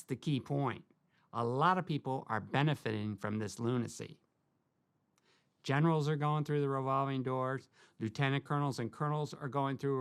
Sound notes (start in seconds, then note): none